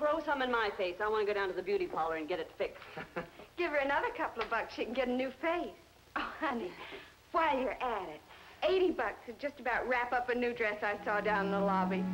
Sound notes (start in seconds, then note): 3.0 man chuckling